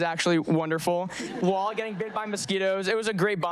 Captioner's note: audience laughing